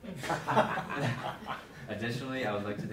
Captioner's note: board members laughing